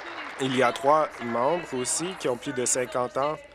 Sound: applause

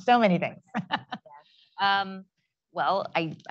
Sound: laugh

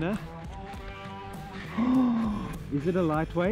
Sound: gasps

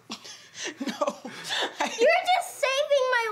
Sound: laughing

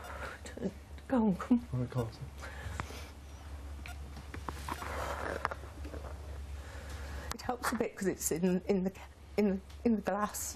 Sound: heavy breathing

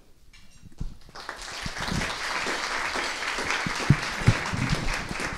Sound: applause

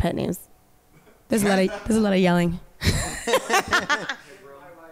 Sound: band members laughing

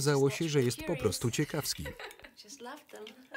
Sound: Mary laughs loudly

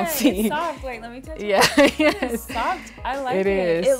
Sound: laughter

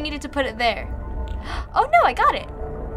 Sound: gasps

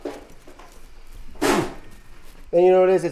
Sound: spits

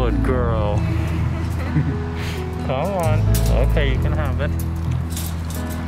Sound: laughter

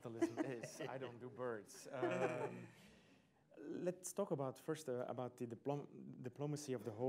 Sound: laughter

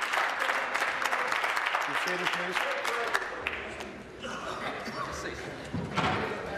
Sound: applause

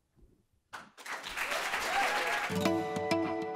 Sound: applause

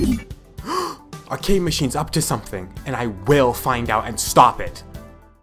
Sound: gasp

